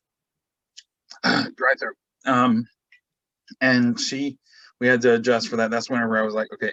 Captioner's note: coughs